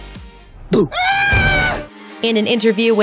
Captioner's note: scream